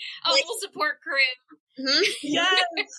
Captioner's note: laughter